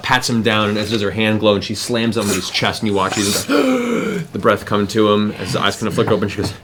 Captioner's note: gasping